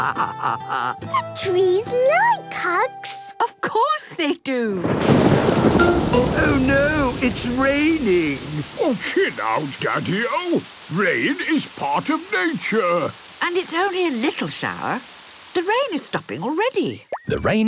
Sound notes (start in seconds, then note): 0.0 laughing; 5.3 thunder booming